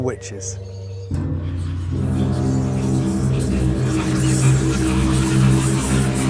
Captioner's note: dramatic instrumental music; whispering